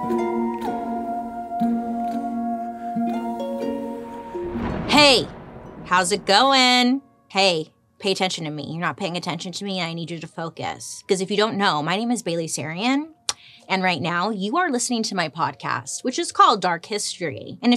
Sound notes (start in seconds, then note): 4.1 thunder rumbling